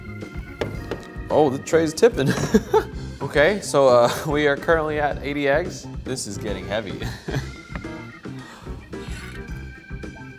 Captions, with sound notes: Oh the tray is tipping. (laughs) Okay, so we are currently at 80 eggs. This is getting heavy. (laughs)